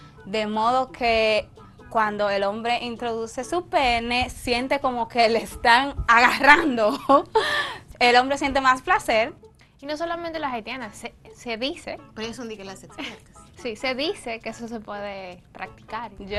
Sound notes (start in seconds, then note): 7.2 laugh